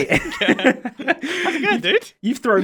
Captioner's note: both laugh